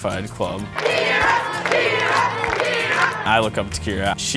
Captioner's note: background music; chanting name; background music